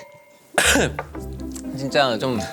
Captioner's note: cough